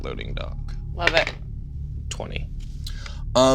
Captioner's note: die rolling